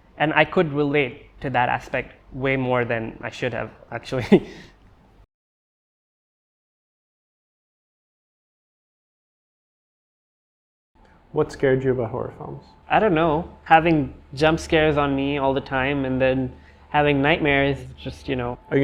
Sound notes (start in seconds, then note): 4.1 chuckles